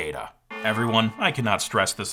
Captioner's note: alarm buzzing